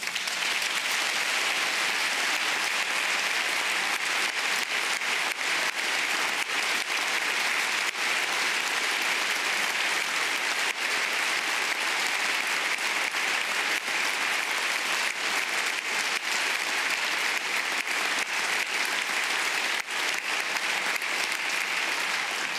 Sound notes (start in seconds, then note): 3.6 applause